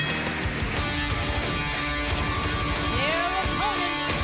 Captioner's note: bell ringing